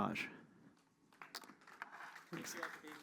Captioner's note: applause